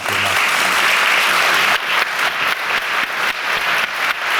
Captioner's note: audience applauding